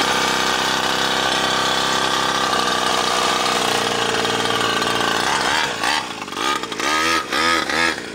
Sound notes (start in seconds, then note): 0.0 engine roars loudly